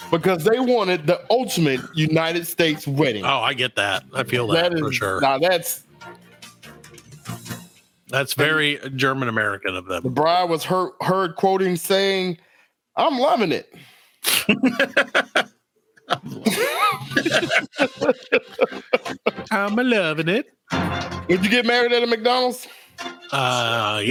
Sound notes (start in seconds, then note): 14.4 laughs